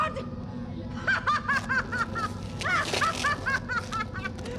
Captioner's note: evil laughing